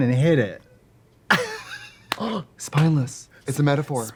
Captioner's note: Katya laughs